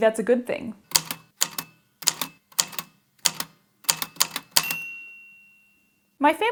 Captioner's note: A typewriter clicks away, then dings